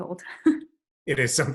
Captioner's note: chuckles